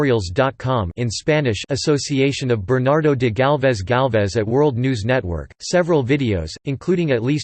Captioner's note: in Spanish